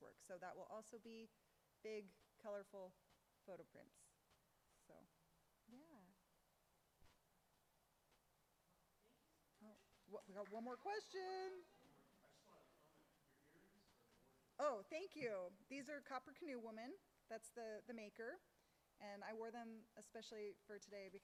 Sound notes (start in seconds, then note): 13.1 speaks faintly